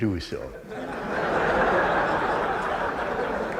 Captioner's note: laughter